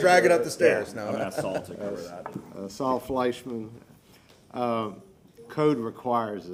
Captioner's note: laughter